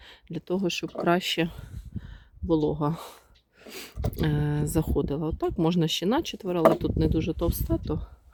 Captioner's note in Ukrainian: сопіння